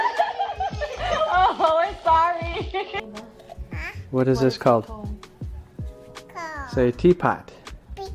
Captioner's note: starts to cry; laughing